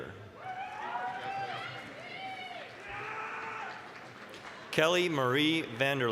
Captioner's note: applause, cheering